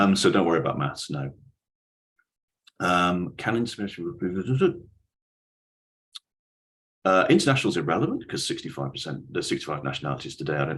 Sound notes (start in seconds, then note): 5.3 talks in gibberish